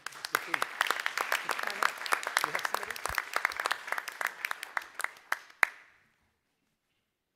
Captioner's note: applause